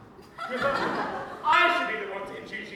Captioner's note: audience laughs